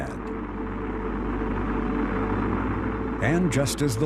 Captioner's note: rocket engine fires up